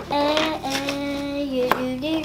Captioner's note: hums